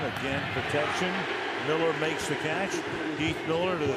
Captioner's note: cheering